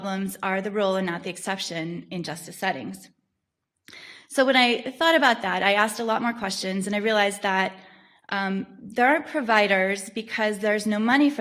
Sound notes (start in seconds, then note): none